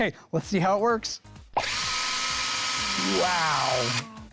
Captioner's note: motor revving